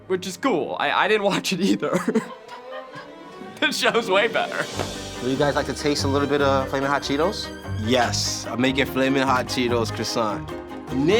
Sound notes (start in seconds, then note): 1.3 laughs; 2.8 producer laughs